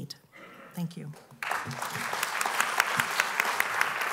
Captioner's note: applause